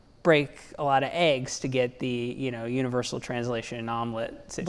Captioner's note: none